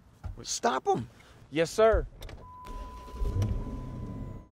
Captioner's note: engine rumbling